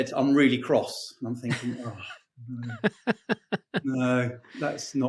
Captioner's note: laughing